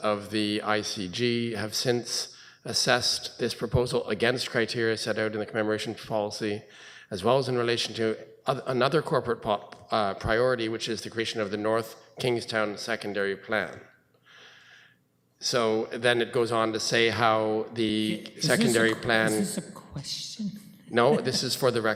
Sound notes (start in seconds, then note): 20.8 chuckling